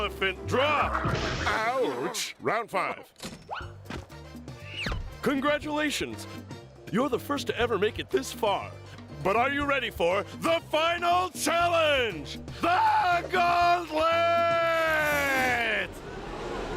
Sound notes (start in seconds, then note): 15.5 audience gasps